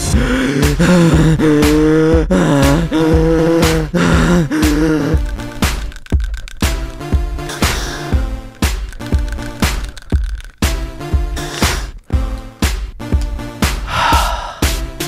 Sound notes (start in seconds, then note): 0.0 wheezing because asthma lol; 5.1 rattling inhaler L; 8.4 rattle rattle rattle rattle; 13.8 sigh of relief; 13.8 wheezing